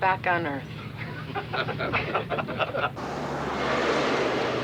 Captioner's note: laughing